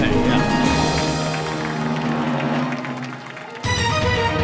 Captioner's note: cheers and applause